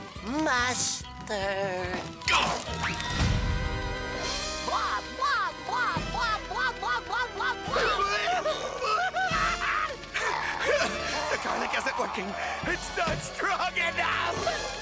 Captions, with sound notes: Master... Go! [grunting] [screaming] The garlic isn't working, it's not strong enough!